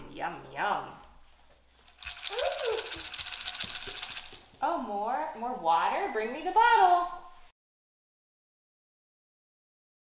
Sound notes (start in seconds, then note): 1.8 Cheerios rattling